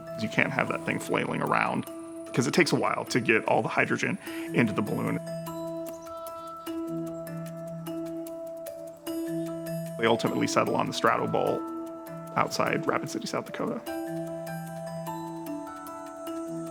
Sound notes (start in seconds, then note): 6.1 birds chirping; 8.3 ambient music; 13.9 ambient music